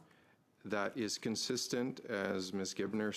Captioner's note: speaking French